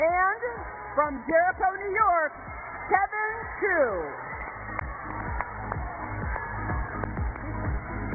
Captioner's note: cheers and applause